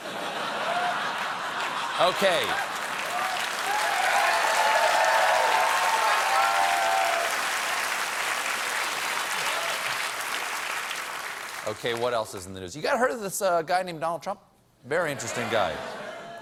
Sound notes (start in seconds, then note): 3.4 cheers and applause